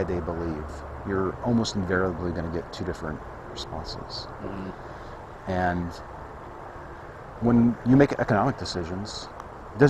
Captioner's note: mmm-hmm